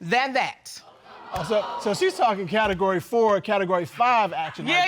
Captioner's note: audience gasps